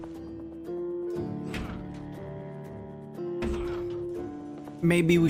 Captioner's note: door banging